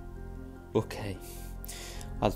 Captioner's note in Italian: sospira